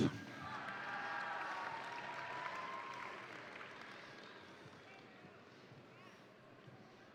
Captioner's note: crowd applauding; crowd cheering